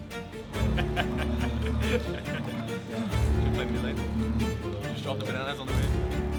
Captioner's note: laughs